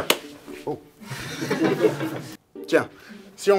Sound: laughs

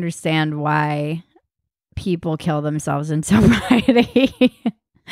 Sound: laughs

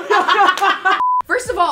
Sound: woman laughs; beeping sound

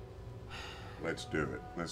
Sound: sighs

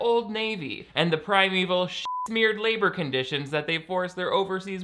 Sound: beep

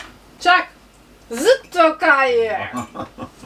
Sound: laughs

